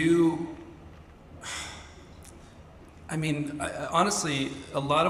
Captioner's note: sighs